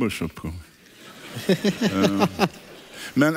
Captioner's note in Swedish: publiken skrattar